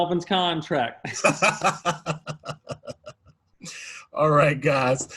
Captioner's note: laughter